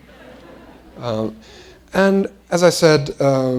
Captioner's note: laughter